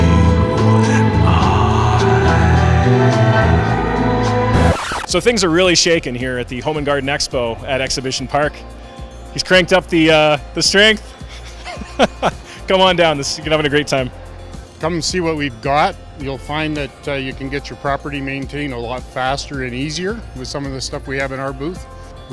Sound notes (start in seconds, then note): 4.5 record scratch; 11.3 laughter